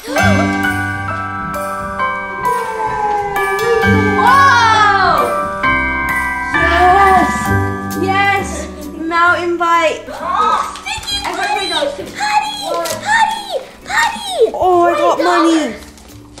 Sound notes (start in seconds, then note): 0.0 giggling; 0.2 bright Christmas music; 4.4 yelling